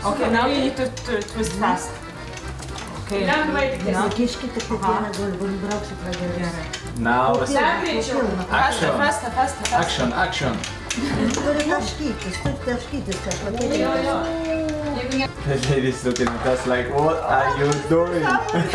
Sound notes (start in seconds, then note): 3.7 speaks in lithuanian